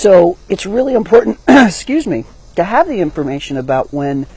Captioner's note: coughs